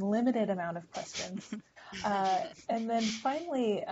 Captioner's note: laugher